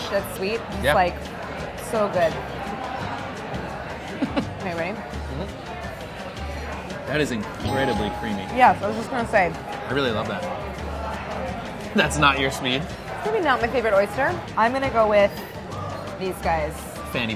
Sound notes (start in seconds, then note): 5.3 laughing; 7.6 bell dinging